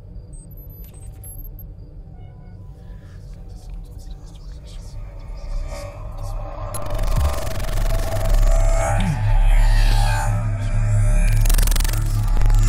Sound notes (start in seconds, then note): 5.5 groaning